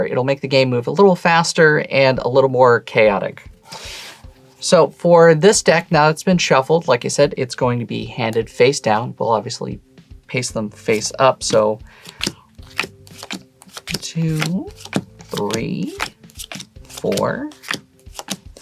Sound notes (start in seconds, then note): 3.4 lo-fi hip hop music playing; 10.8 cards slapping